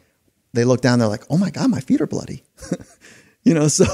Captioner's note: chuckles